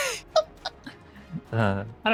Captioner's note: laughing